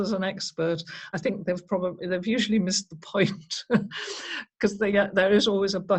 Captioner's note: chuckles